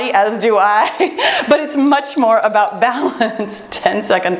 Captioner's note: timer beeps